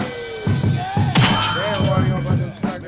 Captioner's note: gunshots